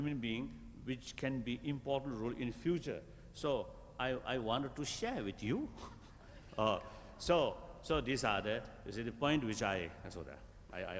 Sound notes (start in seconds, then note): 7.2 laughs